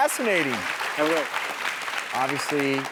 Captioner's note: audience clapping